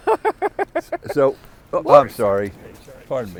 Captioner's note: laughter